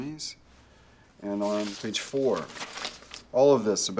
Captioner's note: paper rustling